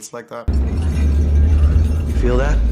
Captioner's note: glass and bottles rattling